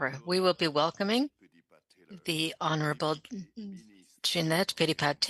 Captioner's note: speaking French